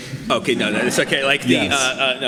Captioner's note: audience laughs